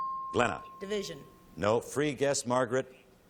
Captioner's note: ping